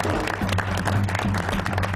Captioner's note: applause